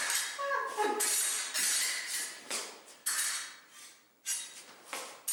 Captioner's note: swords clanging